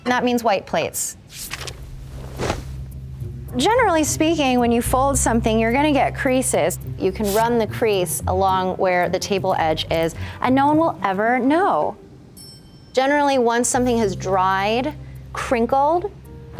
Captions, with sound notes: and that means white plates. [page flapping] [tablecloth whooshing] [soft music] Generally speaking, when you fold something, you're gonna get creases. You can run the crease along where the table edge is, and no one will ever know. Generally, once something has dried crinkled,